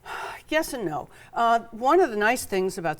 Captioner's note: sighs